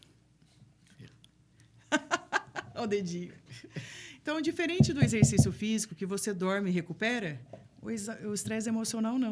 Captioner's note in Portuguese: risadas